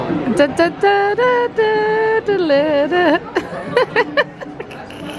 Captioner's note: vocalising, laughing